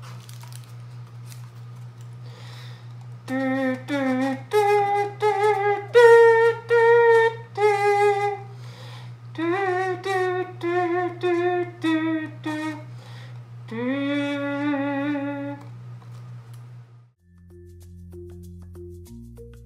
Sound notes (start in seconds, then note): 3.0 musical humming